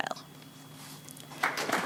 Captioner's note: applause